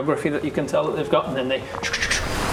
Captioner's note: chk-chk-chk